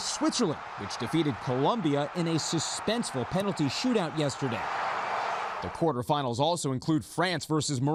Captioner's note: cheers and applause